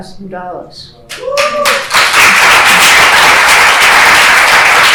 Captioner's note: applause